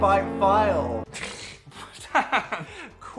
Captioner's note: people laughing